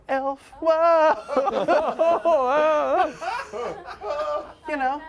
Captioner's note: laughter